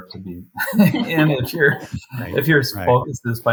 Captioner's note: all laugh